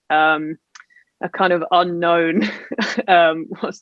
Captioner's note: laughs